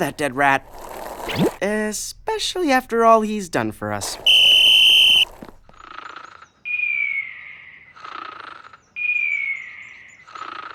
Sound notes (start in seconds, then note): 4.2 blows whistle; 6.7 snoring